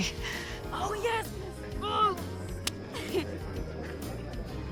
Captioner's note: high-five clap